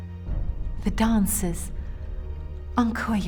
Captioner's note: speaking foreign language